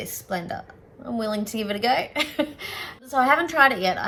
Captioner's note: chuckles